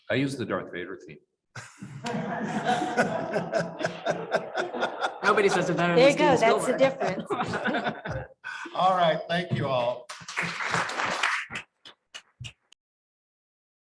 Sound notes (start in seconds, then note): 1.6 group laughing; 9.6 audience applauding